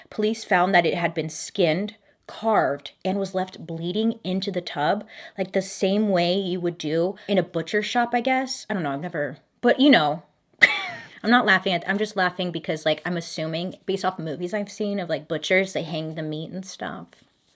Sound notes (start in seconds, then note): 10.6 laughing